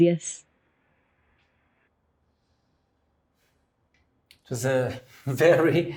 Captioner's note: silence